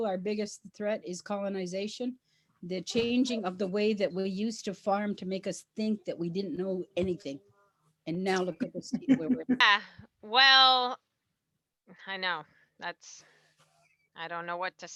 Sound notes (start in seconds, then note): 10.1 laughs